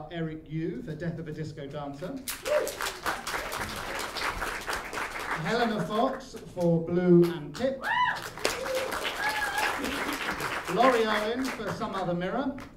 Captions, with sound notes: Eric Yu, for Death of a Disco Dancer. [ APPLAUSE ] Helena Fox for Blue and Pip. [ APPLAUSE ] Laurie Owen for Some Other Mirror.